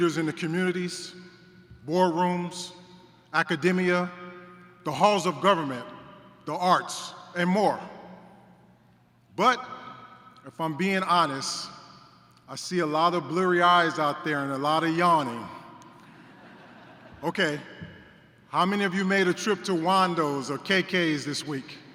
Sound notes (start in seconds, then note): 16.0 laughter